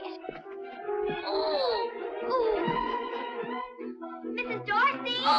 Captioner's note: suspenseful music; boys groaning